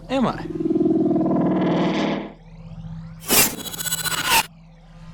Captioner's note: wind whooshing